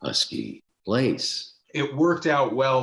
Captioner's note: normal voice